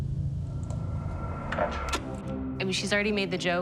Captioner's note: clicking